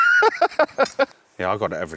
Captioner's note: laughing